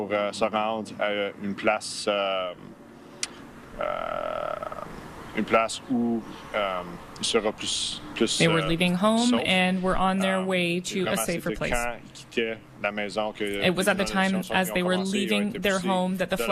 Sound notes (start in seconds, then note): 3.5 speaking French